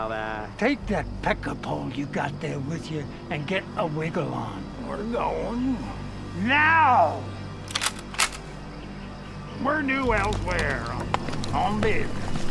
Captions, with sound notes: - Take that pecker pawn you got there with you, and get a wiggle on. - We're going. - Now! (cocks gun) - We're due elsewhere, on business.